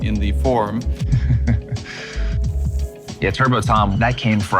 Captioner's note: laughs